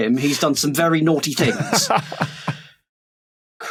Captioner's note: laughs